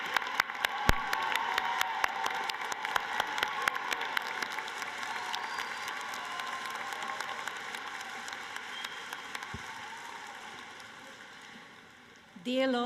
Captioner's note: applause